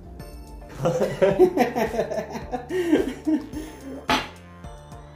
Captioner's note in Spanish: risas